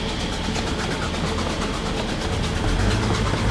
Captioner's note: machine rattling